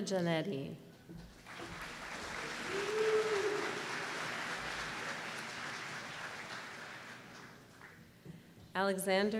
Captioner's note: applause